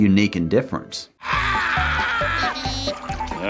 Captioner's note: Squidward screaming